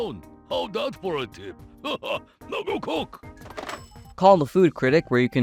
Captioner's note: laughs; phone hangs up